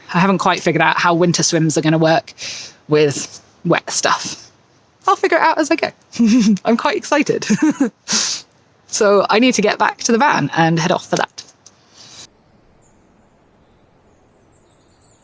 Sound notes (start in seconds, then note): 7.4 giggles